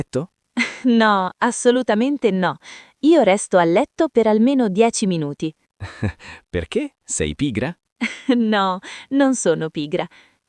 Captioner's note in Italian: risate